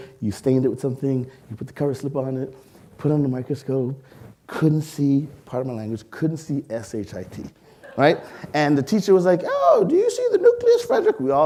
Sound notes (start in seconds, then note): 7.8 audience laughing